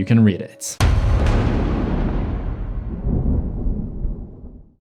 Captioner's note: thunder